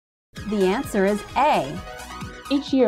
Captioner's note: female announcer speaking